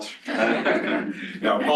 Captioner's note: laughter